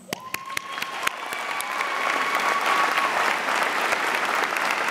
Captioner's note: audience cheers and applauds